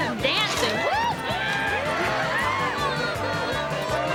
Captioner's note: cheering